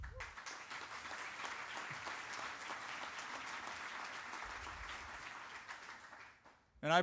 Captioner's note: applause